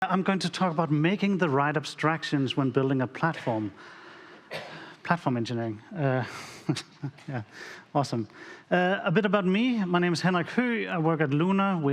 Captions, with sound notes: I'm going to talk about making the right abstractions - when building a platform. Platform engineering. [Chuckles] Yeah, awesome. I bit about me. My name is Henrik Høegh. I work at Lunar.